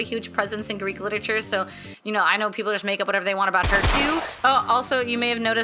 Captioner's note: shots fired